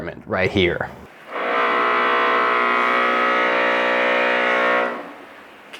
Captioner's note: drilling noise